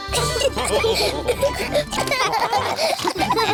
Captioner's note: all laugh